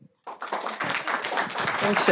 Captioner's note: audience applauding